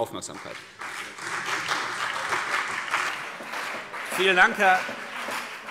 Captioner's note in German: Beifall CDU und BÜNDNIS 90/DIE GRÜNEN